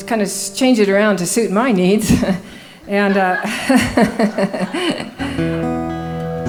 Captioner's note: laughing